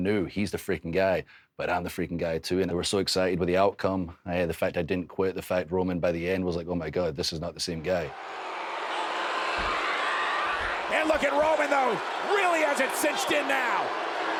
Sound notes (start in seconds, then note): 8.0 crowd jeering; 10.8 Roman screaming